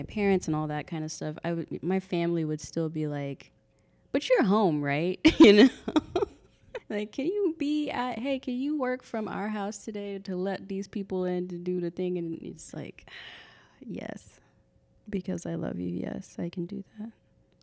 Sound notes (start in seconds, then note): 5.4 laughing; 13.7 sighs